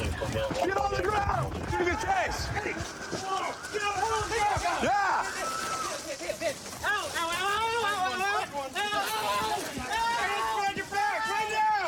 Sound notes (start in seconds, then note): 3.4 officers yelling